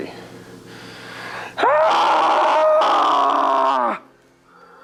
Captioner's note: screams